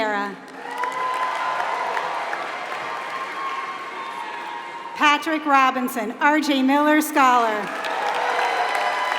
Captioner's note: applause